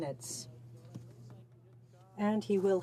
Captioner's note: speaking in french